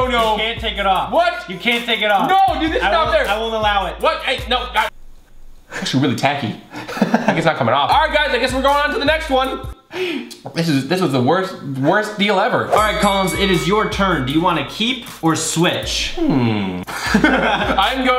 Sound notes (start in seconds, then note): 12.7 bell ringing three times; 17.2 laughing